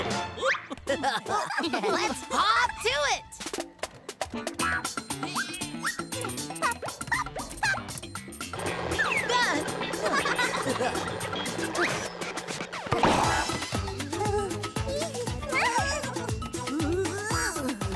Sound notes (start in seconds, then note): 0.3 laughing; 4.4 upbeat music; 8.8 laughing